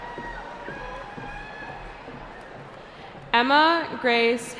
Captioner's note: cheering